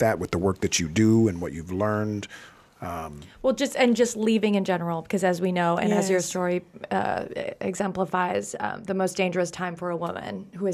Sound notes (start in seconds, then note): none